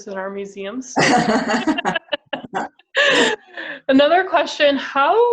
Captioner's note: both laugh